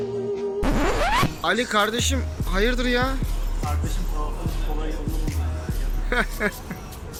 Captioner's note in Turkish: Plak gıcırdama sesi; gülüyor